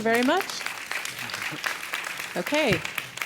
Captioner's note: audience applauding